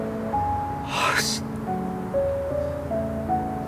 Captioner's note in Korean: 철민의 한숨